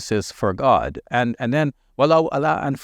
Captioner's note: speaking in Arabic language